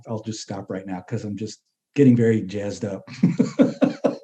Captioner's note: laughs